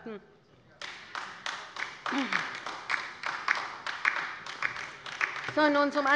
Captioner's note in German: Beifall bei der LINKEN